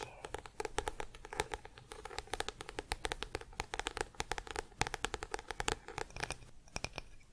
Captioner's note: tapping on book